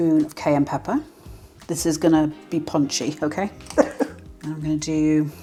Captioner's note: laugh